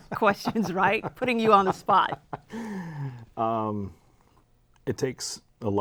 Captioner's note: laughs